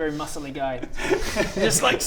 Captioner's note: insulting laughter